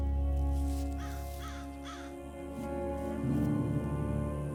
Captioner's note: grass crunching; bird cawing; somber music